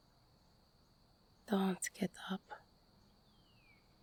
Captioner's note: early morning ambience, birds tweeting, quiet traffic